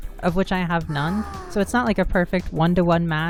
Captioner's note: woman sighing